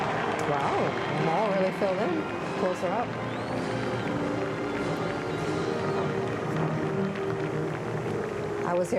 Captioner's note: cheering